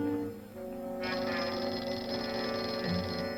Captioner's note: phone ringing